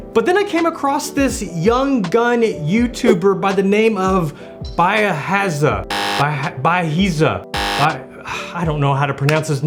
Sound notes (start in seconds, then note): 5.9 buzzer; 7.5 buzzer